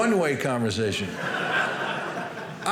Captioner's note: audience laughing